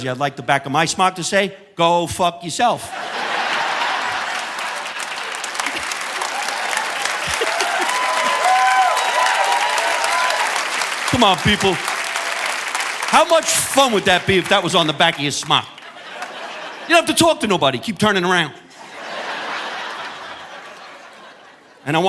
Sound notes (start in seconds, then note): 3.5 audience applauding; 3.5 audience laughing; 6.6 laughs; 7.5 audience applauding; 16.2 audience laughing; 18.6 audience laughing